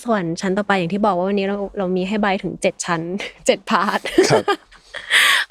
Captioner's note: laughs